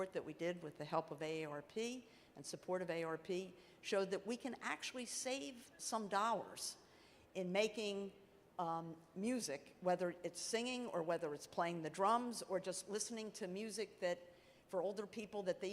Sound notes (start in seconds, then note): none